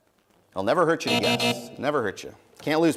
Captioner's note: buzzing